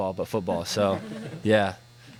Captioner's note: laughs